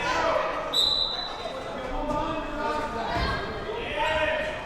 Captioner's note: whistle blowing